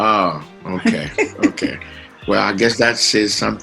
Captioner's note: laughs